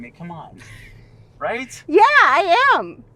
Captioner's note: Kathy laughs